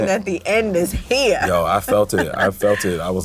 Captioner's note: laughs